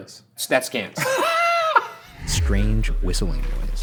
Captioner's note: Shane laughing